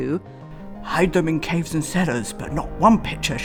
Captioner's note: mimics Churchill